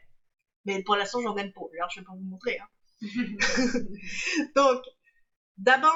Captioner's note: laughs